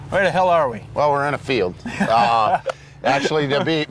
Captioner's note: laughing